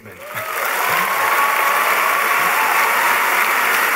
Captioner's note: applause